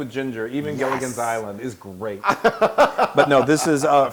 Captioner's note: laugh